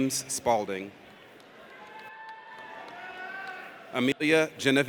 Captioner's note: audience cheers